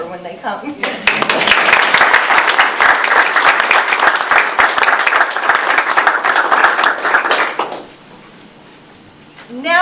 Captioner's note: audience applause